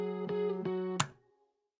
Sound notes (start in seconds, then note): 1.0 light switch flick